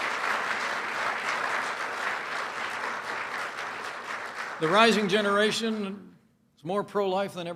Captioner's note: applause